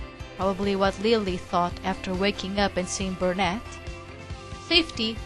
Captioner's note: whispering